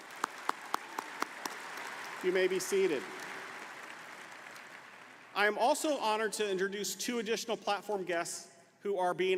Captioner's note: applause